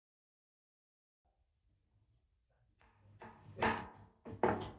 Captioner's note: gavel bangs